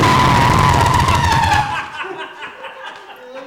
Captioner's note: laughter